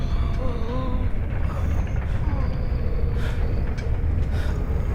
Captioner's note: faint wheezing